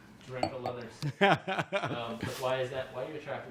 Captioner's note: laughs